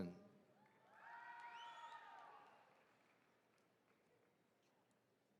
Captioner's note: attendees cheering